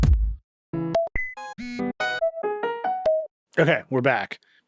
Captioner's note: drum beating; notification rings; piano music